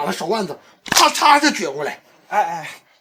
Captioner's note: snap